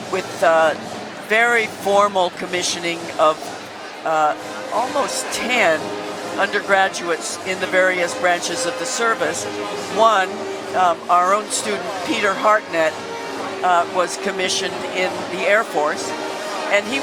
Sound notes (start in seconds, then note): none